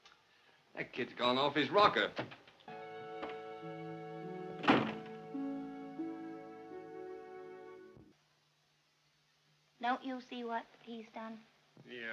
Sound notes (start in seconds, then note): 4.5 door closes